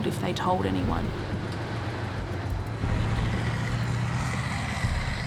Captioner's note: car whooshing